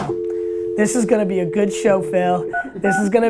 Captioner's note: dial tone